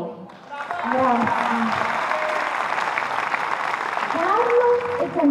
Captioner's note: applause